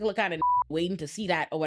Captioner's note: beep